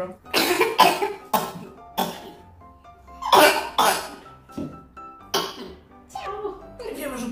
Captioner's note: cough